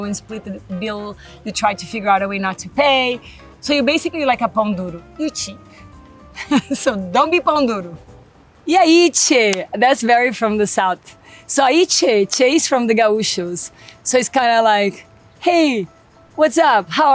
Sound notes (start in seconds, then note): 4.5 speaks Portuguese; 6.3 laughs; 7.0 speaks Portuguese